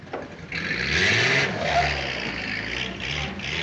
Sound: engine revving

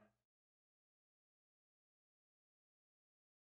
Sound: long pause

